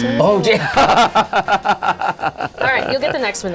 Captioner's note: laughing